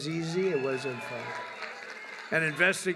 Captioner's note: applause